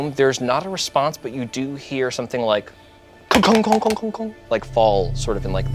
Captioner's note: clunking